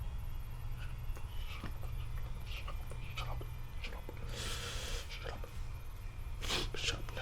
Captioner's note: whispering